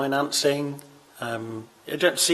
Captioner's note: none